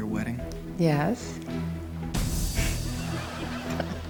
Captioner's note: audience laughs; chuckles